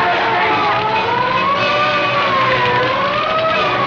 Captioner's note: sirens